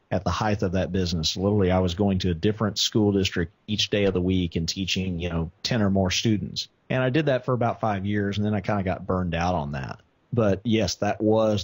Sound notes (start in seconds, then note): none